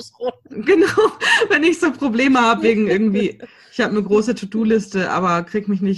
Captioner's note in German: lacht